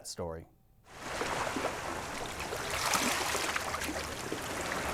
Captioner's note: water laps softly